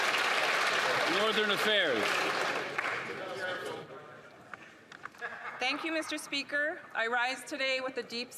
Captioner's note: applause